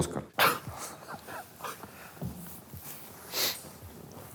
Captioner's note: Dud and Burunov laugh